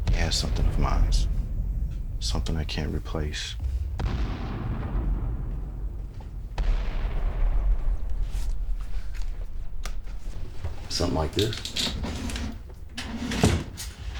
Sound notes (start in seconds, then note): 4.1 bombs rumbling